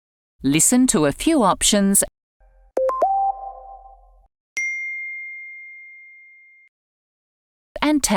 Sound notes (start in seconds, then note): 2.8 text tone playing loudly